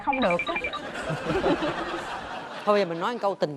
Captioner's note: laughs